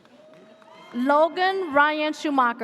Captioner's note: audience cheers